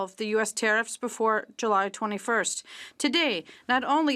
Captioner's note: speaking French